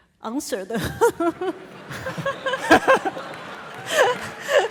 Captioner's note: audience laughing